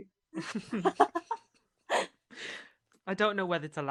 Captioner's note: laughter